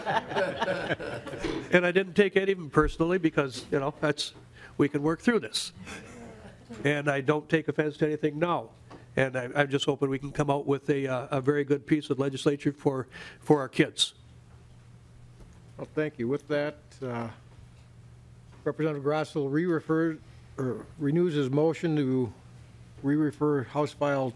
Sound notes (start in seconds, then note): 5.8 laughing